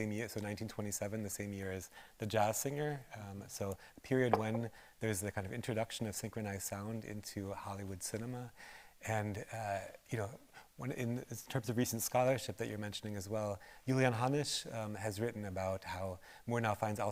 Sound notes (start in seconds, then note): none